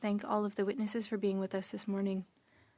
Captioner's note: speaking French